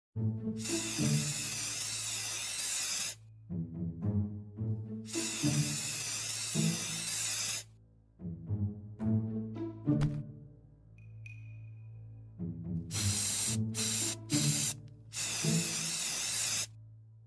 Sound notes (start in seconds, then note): 0.6 spraying; 5.0 spraying; 12.6 spraying